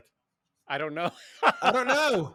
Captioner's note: laughs